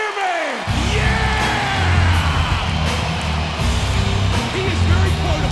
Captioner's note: crowd cheers